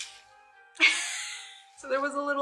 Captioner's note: laughs